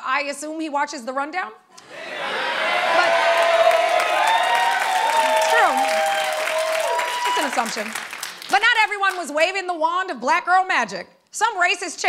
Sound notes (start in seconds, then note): 1.8 cheers and applause